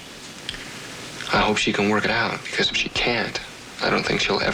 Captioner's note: none